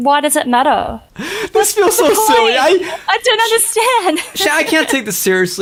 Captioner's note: laughs